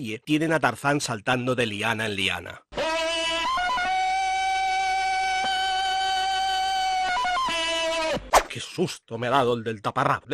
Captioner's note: Tarzan scream